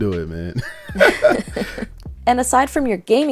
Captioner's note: both laugh